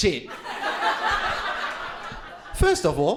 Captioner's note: crowd laughing